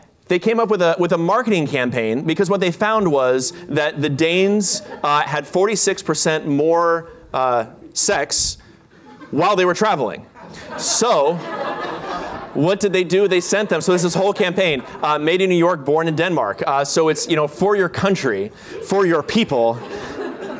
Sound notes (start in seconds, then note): 10.3 laughter